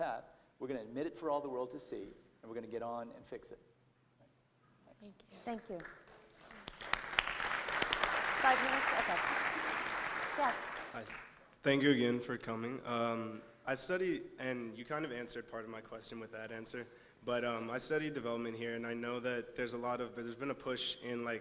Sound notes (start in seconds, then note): 5.6 applause